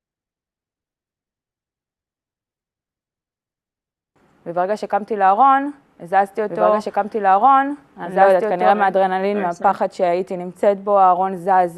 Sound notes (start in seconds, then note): 4.7 speaking in Hebrew